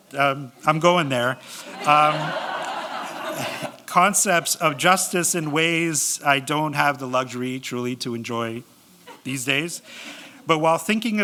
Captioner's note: laughter